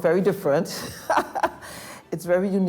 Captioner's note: laughs